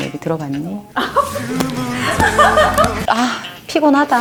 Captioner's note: laugh